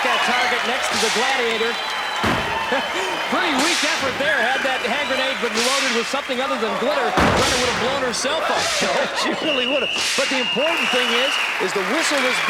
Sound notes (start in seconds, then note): 8.7 chuckling